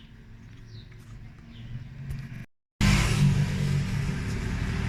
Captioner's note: traffic